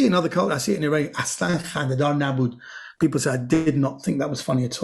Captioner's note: speaking in Persian